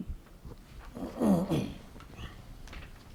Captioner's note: clears throat